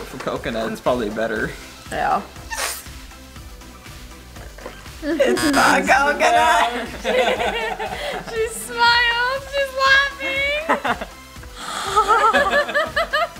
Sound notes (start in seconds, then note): 6.7 buzzer; 7.2 laughing; 11.7 laughing